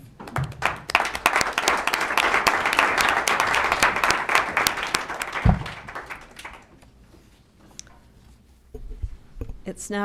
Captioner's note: applause